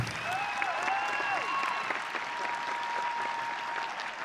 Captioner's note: audience cheering